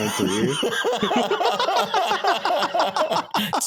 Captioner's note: laughing